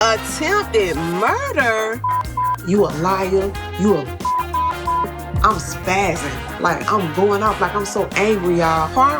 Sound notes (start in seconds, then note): 4.2 beep